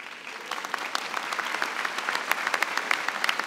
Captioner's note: applause